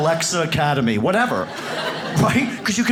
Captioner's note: audience laughs